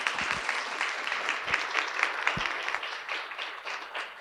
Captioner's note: audience applauding